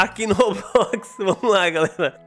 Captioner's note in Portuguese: Risos